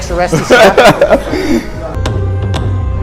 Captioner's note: laughing; dramatic music